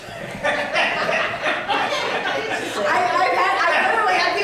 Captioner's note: audience laughing